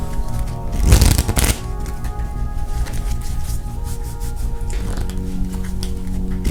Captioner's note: sombre music; cards shuffling